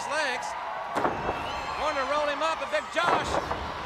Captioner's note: crowd cheering